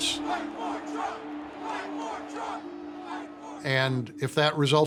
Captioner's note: chanting